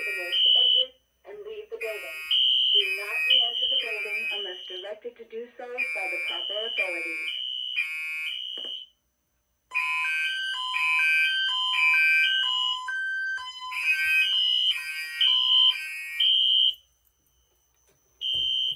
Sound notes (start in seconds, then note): 5.0 voice Message